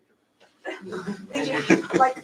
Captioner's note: laughter